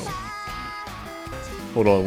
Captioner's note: phone rings